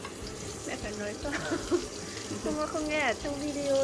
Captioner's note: laughs